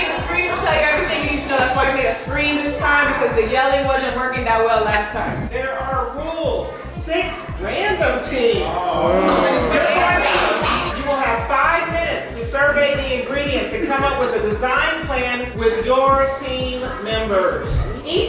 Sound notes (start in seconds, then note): 8.7 guests grunt; 8.9 guests chatter